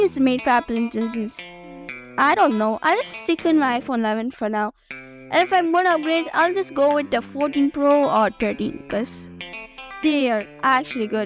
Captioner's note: voiceover